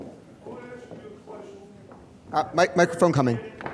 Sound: man speaking off mic

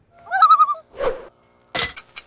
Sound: loon call

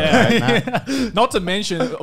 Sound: laughs

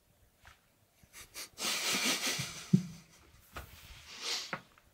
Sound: James chuckles

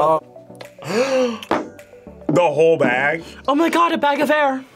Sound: gasps

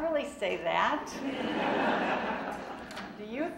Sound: audience laughing

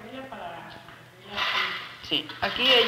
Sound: speaking Spanish; metal clanking

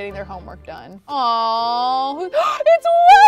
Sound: gasps

